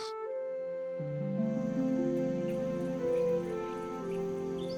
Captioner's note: birds chirping